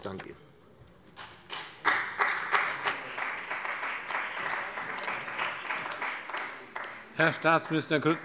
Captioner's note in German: Beifall bei dem BÜNDNIS 90/DIE GRÜNEN und der CDU